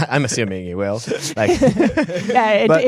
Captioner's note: laughing